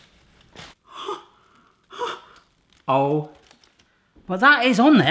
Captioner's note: gasping